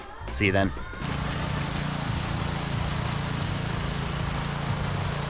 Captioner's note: tiller humming; upbeat music